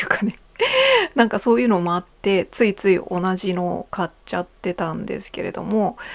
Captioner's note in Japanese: 息をのむ音; 笑い